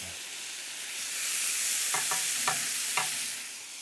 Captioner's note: sizzling